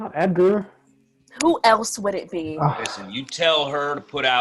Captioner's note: leo sighs